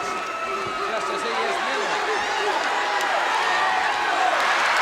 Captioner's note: audience cheers; audience barks